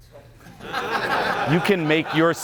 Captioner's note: audience laughing